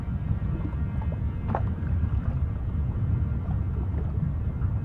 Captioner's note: water sloshes